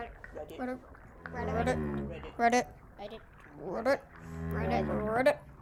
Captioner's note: frog noises